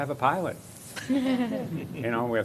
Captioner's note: laughter